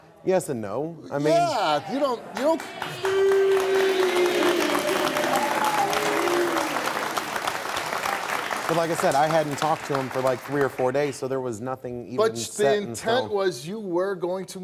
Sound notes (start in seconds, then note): 2.1 audience clapping